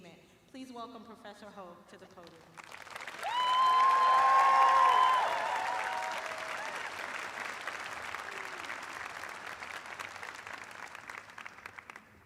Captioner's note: cheers and applause